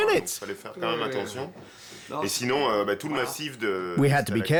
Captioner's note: speaking French